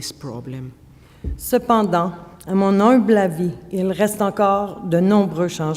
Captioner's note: speaking French